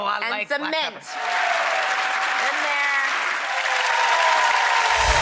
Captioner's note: applause